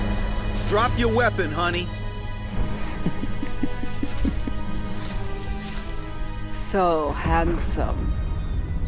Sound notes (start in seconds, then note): 2.8 laughs knowingly